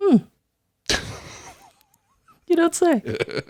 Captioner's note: laughs